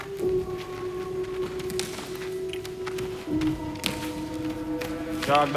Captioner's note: bodies thudding to the ground